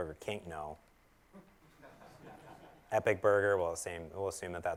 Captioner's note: laugh